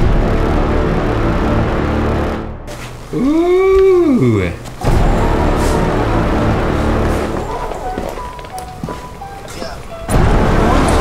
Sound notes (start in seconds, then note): 0.0 dramatic music; 3.2 cheering; 4.8 dramatic music